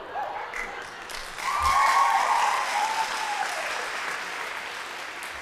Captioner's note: audience applauding